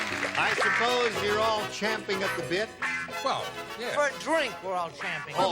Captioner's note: laughs